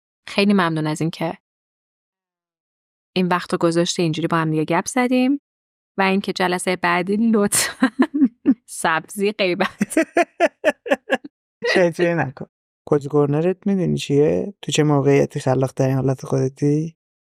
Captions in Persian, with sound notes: خیلی ممنون از این‌که این وقت رو گذاشتی این‌جوری با همدیگه گپ زدیم و این‌که جلسه‌ی بعدی لطفاً سبزی غیبت (خنده) - شیطونی نکن! کوزی کرنرت می‌دونی چیه؟ تو چه موقعیتی خلاق‌ترین حالت خودتی؟